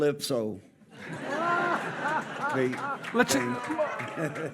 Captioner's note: audience laughing